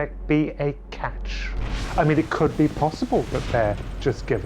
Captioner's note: air whooshes